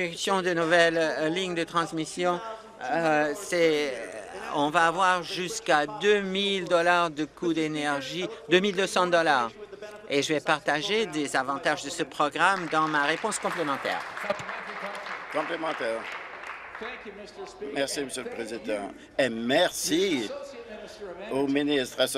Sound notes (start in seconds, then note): 16.5 applause